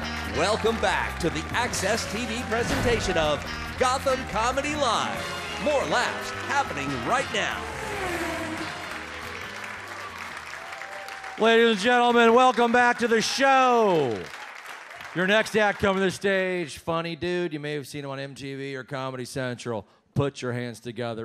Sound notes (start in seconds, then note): 0.0 audience applauds; 8.0 race car zooms; 9.2 audience applauds